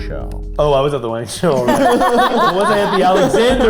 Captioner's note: group laughing